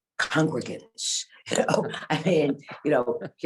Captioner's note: laughs